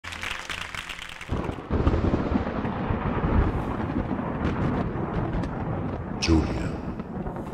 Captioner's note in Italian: Applauso